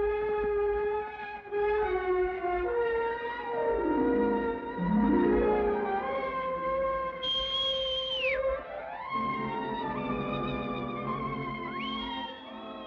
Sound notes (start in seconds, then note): 7.2 whistles; 9.3 dramatic music; 11.7 whistles